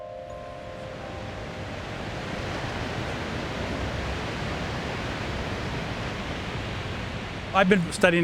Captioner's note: waves crashing